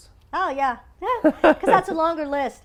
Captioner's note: laugh